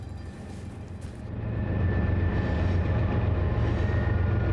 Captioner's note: engine rumbling